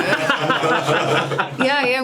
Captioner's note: laughs